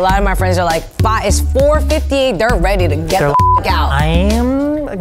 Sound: beep

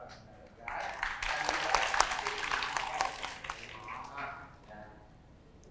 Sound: applause

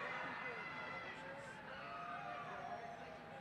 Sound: cheering

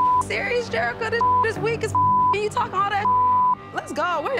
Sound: beep; beep

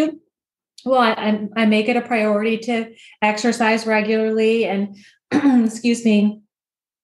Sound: coughs

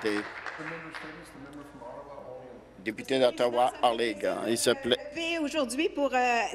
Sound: applause

